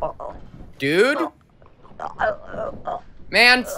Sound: John choking

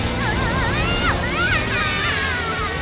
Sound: squeaking

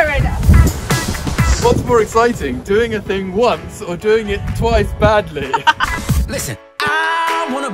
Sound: laughs

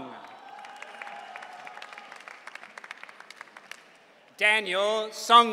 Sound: audience cheering

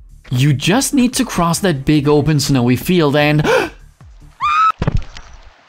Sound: gasp

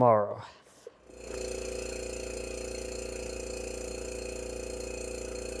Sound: compressor buzzes

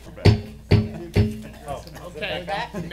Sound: gavel pounding

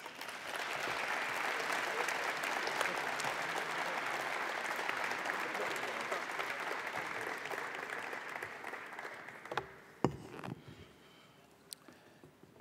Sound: applause

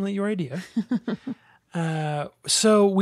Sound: laughs

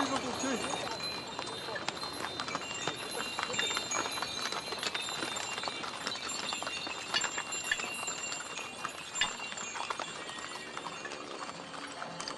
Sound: sound of bells and horses hooves

